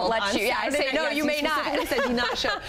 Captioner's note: laughs